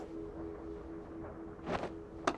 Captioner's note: none